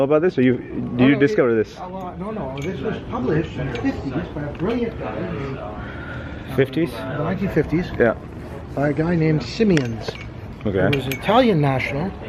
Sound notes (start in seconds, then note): 3.6 background mumbling